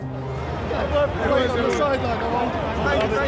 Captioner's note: indistinct chatter